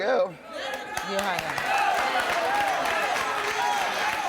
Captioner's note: applause